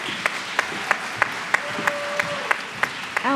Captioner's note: applause